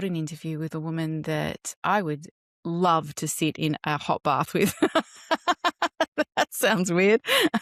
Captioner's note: laughs